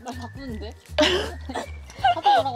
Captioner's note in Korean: 콜록